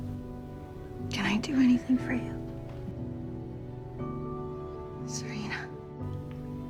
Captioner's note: voiceover